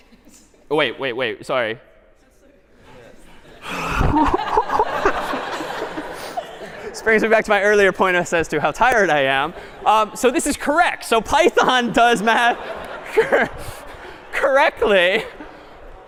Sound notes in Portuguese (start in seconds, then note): 4.6 riso